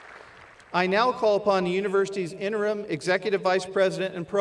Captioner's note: applause